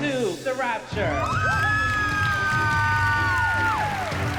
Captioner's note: cheering